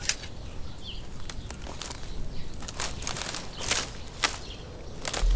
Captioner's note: leaves crunching